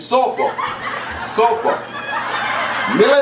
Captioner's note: laughter